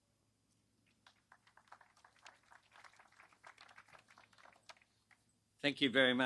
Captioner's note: applause